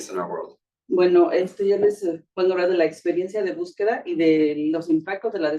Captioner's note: speaking Spanish